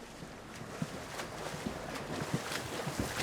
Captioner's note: splashing